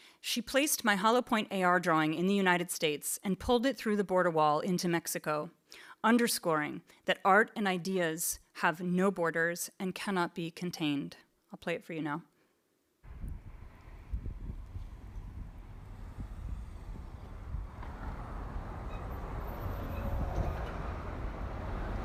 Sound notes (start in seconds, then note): 15.3 wind gushing; 18.6 vehicle tires roaring